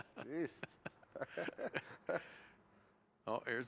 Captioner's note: laughter